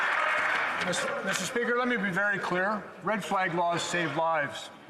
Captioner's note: some Applause